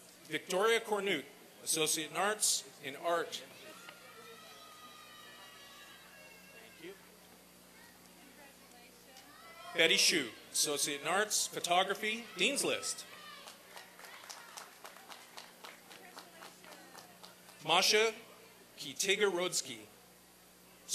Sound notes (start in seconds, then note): 4.1 applause and cheering; 13.0 applause and cheering